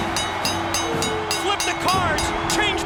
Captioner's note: bell ringing; crowd cheering